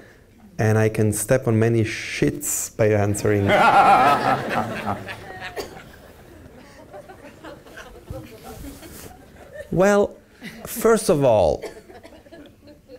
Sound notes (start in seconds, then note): 6.8 laughs